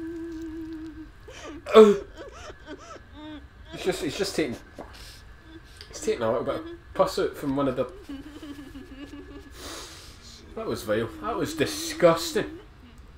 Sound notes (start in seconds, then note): 0.0 gag